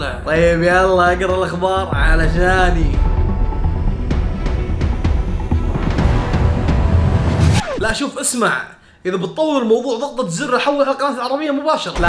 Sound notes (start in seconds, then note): 3.1 intense music; 7.2 record scratch